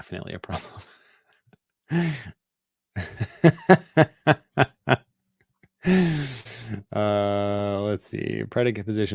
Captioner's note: laughter